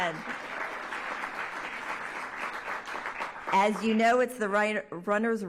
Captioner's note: applause